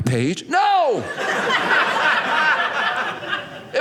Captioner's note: audience laughing